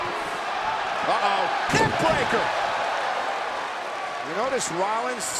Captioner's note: body thudding; body thudding